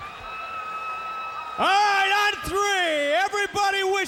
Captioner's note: crowd cheering